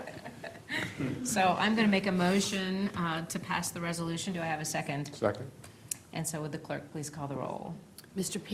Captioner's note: laughter